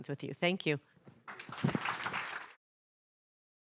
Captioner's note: applause